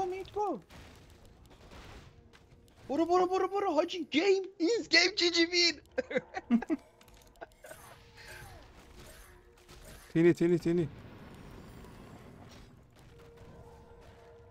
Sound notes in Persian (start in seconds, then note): 5.8 خنده